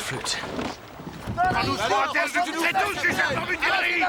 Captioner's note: both argue in french